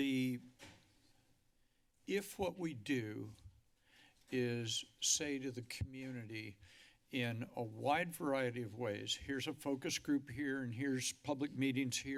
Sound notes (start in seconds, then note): none